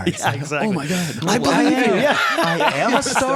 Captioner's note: laughter and crosstalk